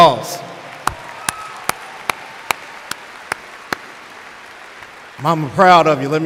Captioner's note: applause